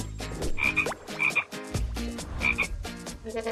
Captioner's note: quack